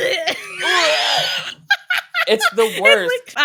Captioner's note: gags; laughs